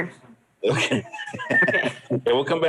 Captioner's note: laughs